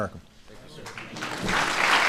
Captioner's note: applause